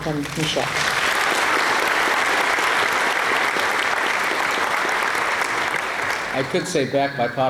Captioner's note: applause